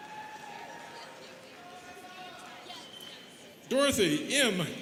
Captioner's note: students cheering